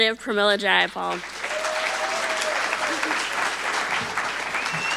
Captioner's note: audience applauding